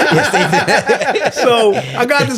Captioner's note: all laughing